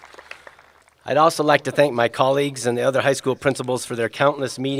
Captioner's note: applause